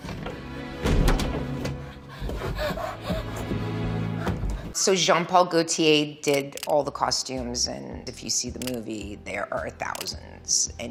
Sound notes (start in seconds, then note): 0.0 gentle string music; 1.7 Leeloo panting frantically